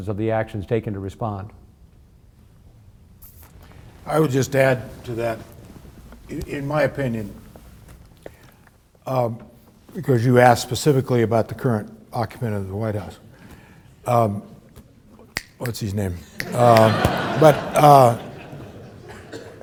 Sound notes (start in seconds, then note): 15.3 snaps fingers; 16.3 audience laughs